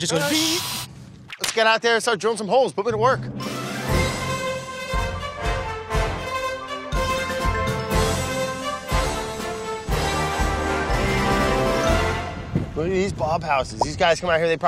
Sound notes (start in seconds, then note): 0.2 drilling; 1.1 whip cracking; 3.6 marching music